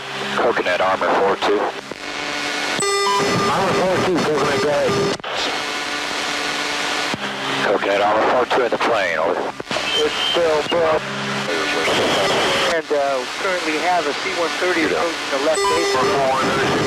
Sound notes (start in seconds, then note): 2.2 signal distortion sound; 5.8 plane noise